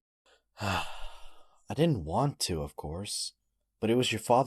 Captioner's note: sighs